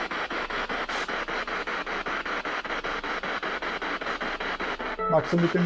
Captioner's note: radio noise from the spirit box